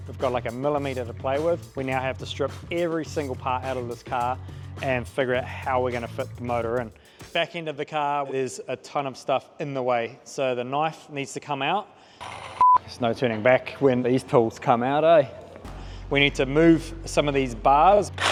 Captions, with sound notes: we've got like a millimetre to play with. We now have to strip every single part out of this car and figure out how we're gonna fit the motor in. Back end of the car, there's a ton of stuff in the way, so the knife needs to come out. (beep) There's no turning back when these tools come out, ay? We need to move some of these bars.